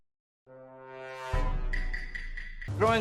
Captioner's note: among us reveal sound